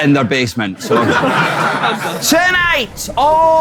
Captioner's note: people in room laughing